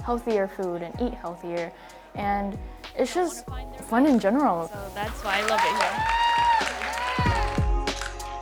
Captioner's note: applause